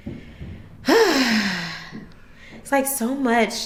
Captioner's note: sighing